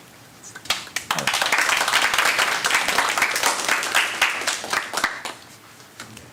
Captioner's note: applause